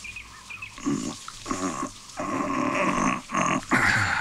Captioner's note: Grunts; Sighs